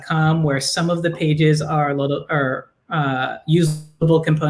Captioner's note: voice distorting